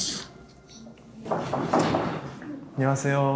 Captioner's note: knock knock knock